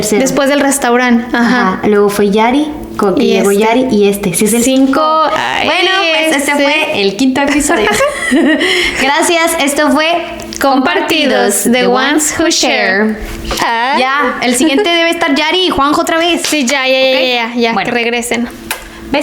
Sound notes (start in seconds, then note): 7.4 laughs